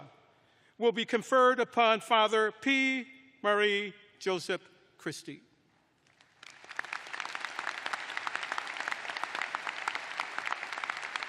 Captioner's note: applause